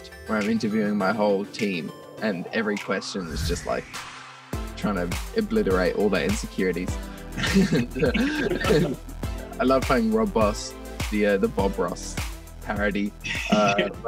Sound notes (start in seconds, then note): 7.3 laughs